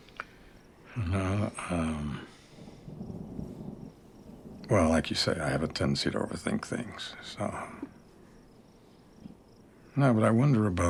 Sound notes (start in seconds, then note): 2.7 thunder rumbles